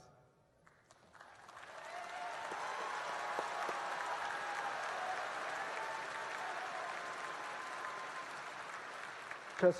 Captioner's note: applause